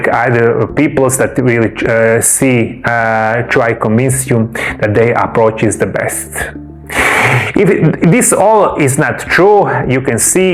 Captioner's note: snorts and sighs